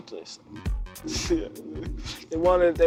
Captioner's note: laughs